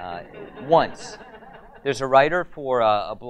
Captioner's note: audience laughs